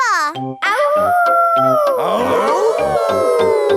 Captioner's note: all howling; howling